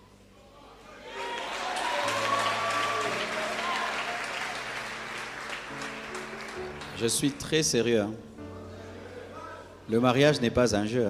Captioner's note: applause